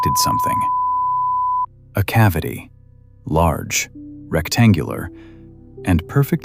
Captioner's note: breath